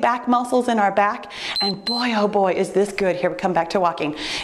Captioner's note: timer beeps